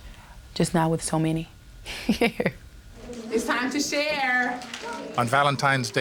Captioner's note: laughs